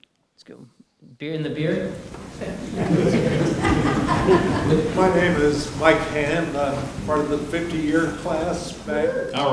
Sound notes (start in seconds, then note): 1.8 audience laughing